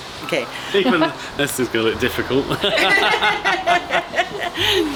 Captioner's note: laughing